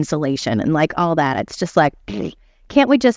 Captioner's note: blows raspberry